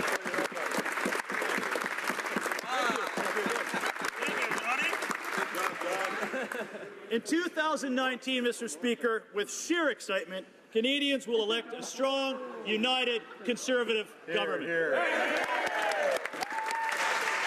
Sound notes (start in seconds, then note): 1.6 some Applause